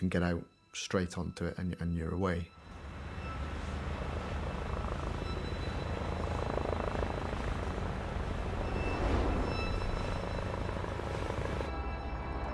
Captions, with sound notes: you can get out straight onto it, and you're away. [bus engine humming] [helicopter blades whirring]